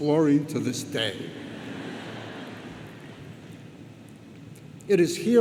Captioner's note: audience laughs